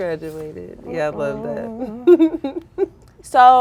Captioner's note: giggling